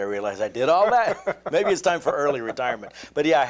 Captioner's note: laughter